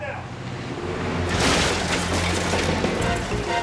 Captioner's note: crash